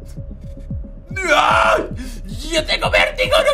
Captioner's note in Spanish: Grita